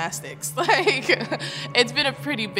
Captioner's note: laughing